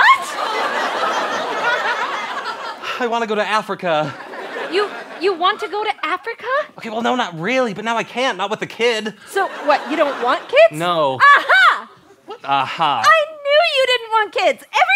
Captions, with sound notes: - What? [audience laughter] - I want to go to Africa. - You want to go to Africa? - Well, no, not really, but now I can't! Not with a kid. - So, what, you don't want kids? - No. - A- ha! - What "A-ha"? - I knew you didn't want kids!